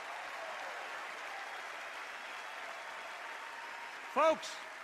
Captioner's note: applause, cheers